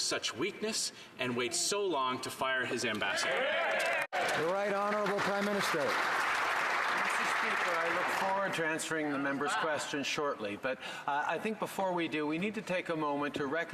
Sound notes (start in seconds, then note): 6.5 some Applause